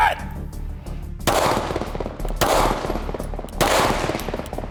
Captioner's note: gun fires